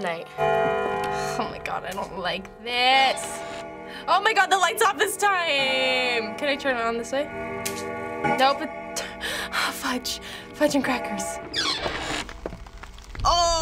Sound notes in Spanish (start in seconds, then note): 7.8 Clic interruptor de la luz; 9.0 Jadeo; 11.4 puerta cruje